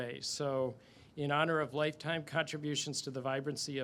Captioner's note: none